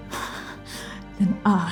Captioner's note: staggered, furious breathing